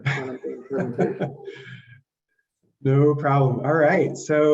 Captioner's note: laughs